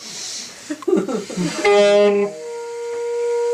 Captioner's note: laughs; saxophone playing